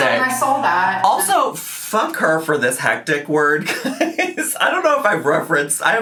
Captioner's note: laughs